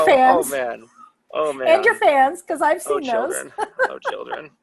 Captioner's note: laughter; laughter